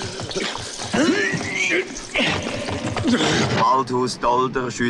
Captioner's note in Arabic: آهات; الشرطة تتحدث بلغة أجنبية